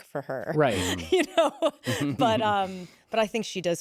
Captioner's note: laughs